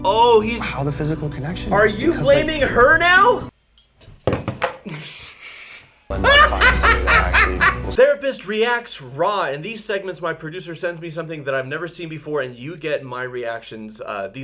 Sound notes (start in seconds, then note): 4.3 sputters; 6.0 laughs